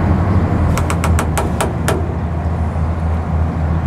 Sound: boat creaks

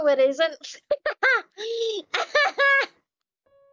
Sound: ugly laugh

